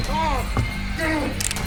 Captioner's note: cocks gun